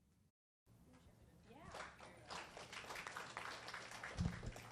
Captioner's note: audience applauding